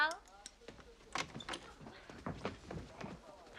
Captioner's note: Дверь открывается